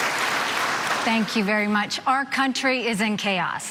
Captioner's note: applause